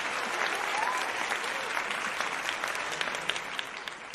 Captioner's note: audience applauding; audience cheering